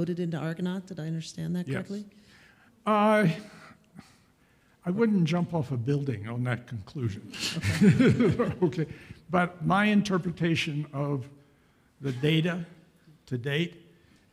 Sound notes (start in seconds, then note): 7.4 laughs